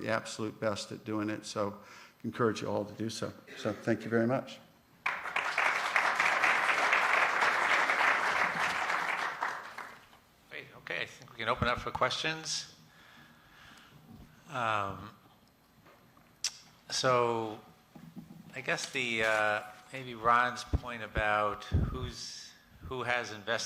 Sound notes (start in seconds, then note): 5.0 applause